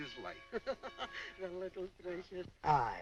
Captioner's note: laughing